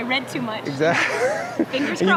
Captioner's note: chuckles